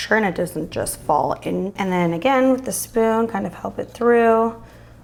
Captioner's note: none